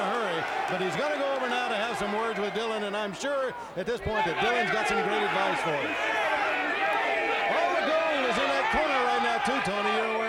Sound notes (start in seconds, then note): 6.1 fans shouting